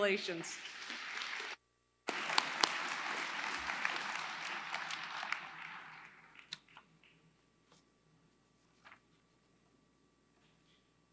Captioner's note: applause